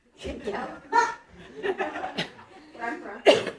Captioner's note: audience laughing